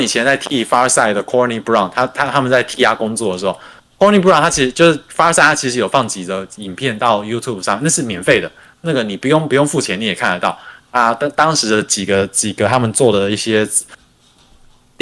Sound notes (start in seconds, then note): 0.0 non-english speech